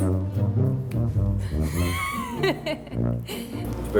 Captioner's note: laughing